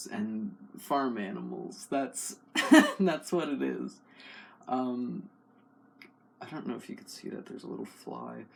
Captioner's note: laugh